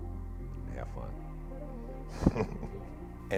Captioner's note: laughs